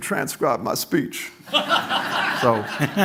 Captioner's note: laughter